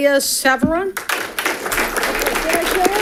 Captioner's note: audience clapping